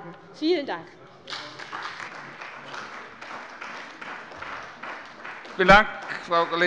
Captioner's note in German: Beifall bei der CDU und dem BÜNDNIS 90/DIE GRÜNEN